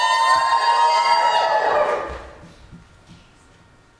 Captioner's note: audience cheers